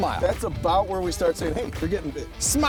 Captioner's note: voiceover